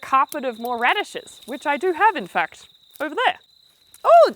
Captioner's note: birds Chirping